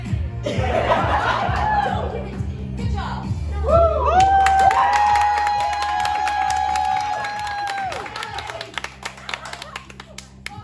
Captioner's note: laughter, scattered applause